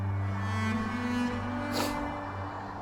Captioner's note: sniffles